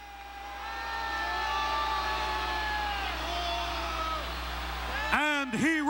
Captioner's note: crowd chattering